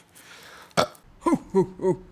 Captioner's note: burps